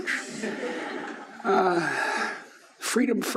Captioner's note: laughing